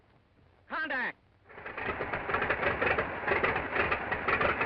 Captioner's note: engine starting